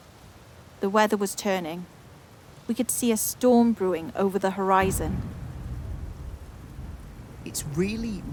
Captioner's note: storm approaching; deean. rain falls